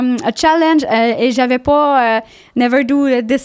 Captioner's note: in french